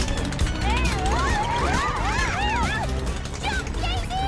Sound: yelling

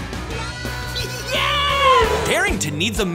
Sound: laughing

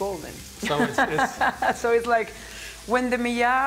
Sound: laughs

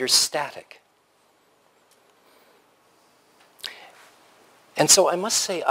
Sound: pause

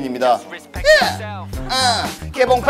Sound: exclaiming

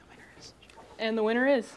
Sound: whispering

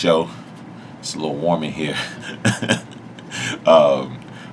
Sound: laughs

